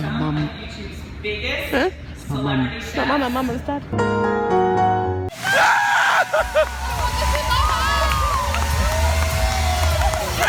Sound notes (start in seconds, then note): 3.9 sad piano music; 5.4 screams; 7.6 crowd cheers